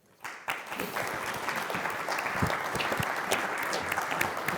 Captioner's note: audience applauding